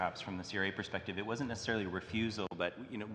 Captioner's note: speaking French